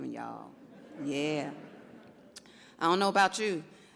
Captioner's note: audience laughs